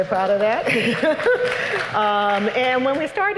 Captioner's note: applause